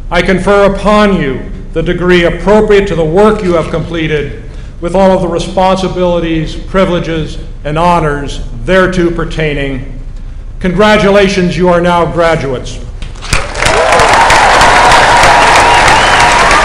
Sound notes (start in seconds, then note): 13.2 applause